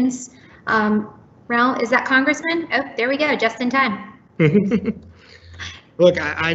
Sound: laughs

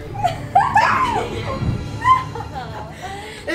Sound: laughs

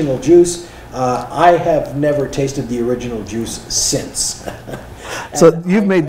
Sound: chuckling

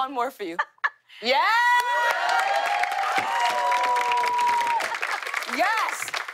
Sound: cheers and applause

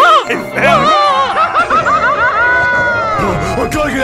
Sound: laughter

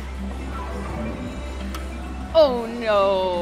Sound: ball thuds

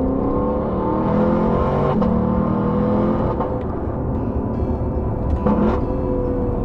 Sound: engine sounds

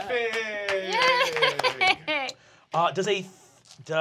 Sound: chuckles

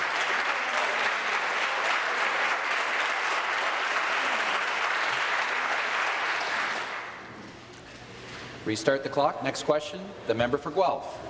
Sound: applause

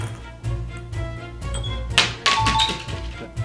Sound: intense instrumental music; coin clatters; chimes

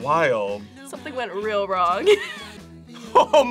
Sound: laughs

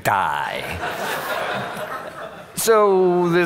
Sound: audience laughing

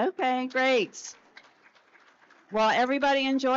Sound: audience applauds

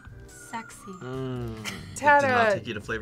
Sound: laughs

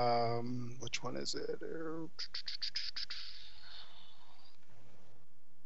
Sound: whistles

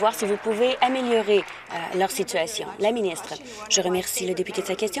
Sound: applause

